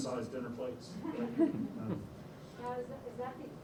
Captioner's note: laughter